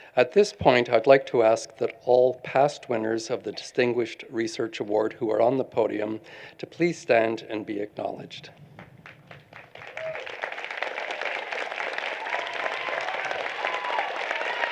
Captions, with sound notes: At this point, I'd like to ask that all past winners of the distinguished Research Award who are on the podium to please stand and be acknowledged. [APPLAUSE]